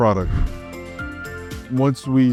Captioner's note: transition whooshing